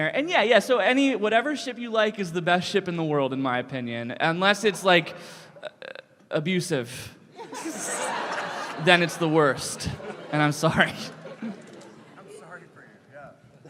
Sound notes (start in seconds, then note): 11.2 chuckle